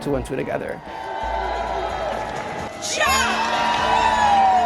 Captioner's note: people cheering